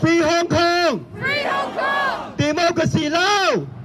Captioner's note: crowd responds "FREE HONG KONG!"